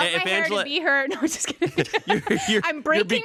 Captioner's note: laughs